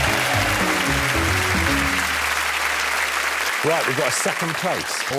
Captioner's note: cheers and applause